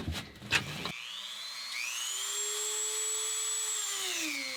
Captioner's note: whirring